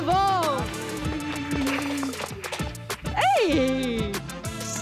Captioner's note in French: applaudissements